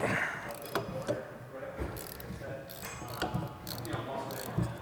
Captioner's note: wrench grinding